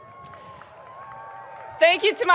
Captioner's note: people cheering